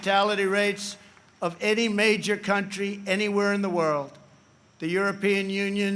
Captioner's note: applause